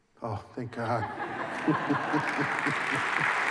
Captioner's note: laughter and applause